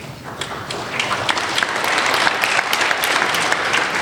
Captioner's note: applauding